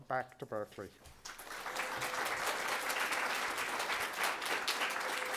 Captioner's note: audience clapping